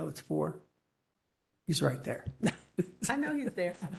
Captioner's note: laughter